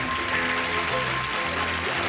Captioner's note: bells ding